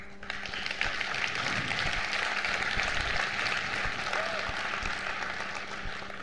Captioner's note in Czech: potlesk